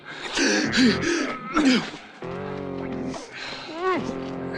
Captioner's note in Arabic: يلهث